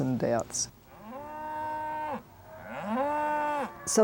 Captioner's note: cows mooing